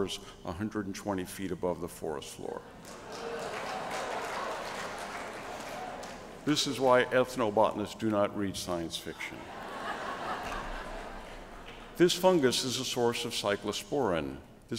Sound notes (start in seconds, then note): 2.8 applause; 9.4 laughter